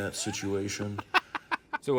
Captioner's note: laughing